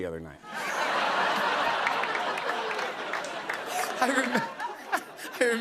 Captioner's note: laughter